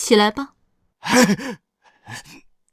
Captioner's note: sigh of relief